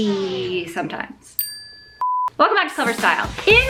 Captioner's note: bell dinging